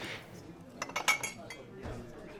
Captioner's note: cup sounds